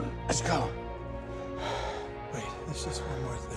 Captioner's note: sighs